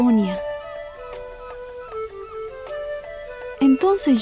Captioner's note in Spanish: pájaros trinando